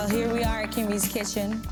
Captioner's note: audience applauding